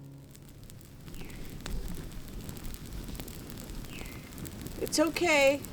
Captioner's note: bird chirps